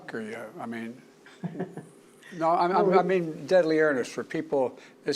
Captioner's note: laughter